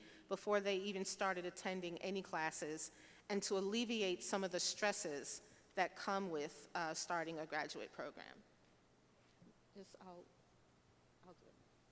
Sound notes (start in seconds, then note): none